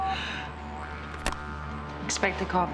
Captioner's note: phone beeping